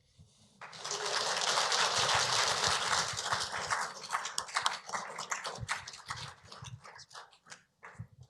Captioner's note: applause